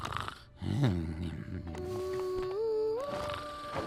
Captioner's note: snores and groans